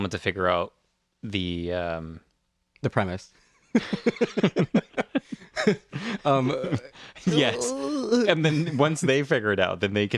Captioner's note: laugh